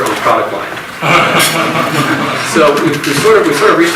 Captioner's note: audience laughs